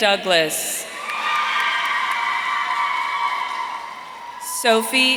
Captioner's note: audience cheering